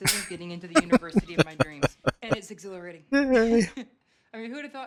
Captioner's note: laughing